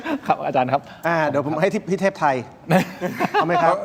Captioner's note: laughter; laughter